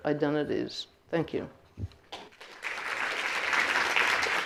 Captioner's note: applauding